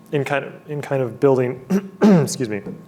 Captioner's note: clearing throat